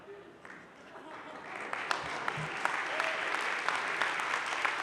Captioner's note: audience laughs; audience claps